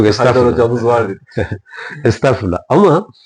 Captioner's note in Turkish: kahkaha